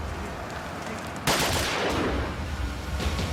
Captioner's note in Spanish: Disparos